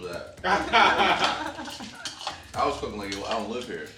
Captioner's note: all laughing